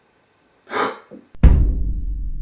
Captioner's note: gasp